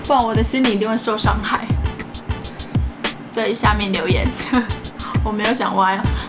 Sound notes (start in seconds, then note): 4.4 laughing